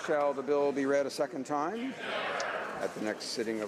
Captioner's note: speaking French